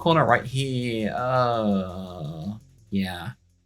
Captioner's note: disenchanted noise